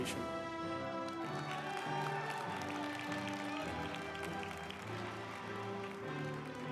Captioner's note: uplifting music; group applauding